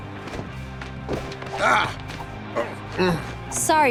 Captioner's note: grunting